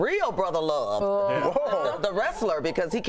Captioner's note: laughter